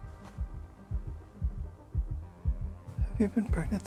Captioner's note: baby heartbeat